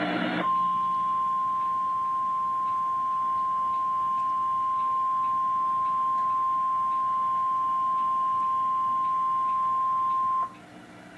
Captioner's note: 1060 Hz TONES